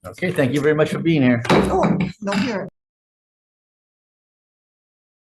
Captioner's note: banging of gavel